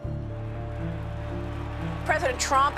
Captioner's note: crowd cheering